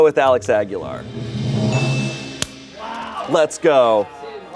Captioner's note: beep; bell dings